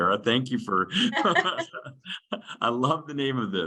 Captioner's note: laughing